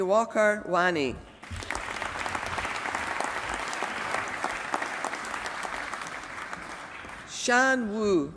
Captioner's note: applause